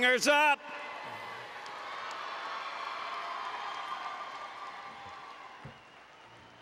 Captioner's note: applause and Cheering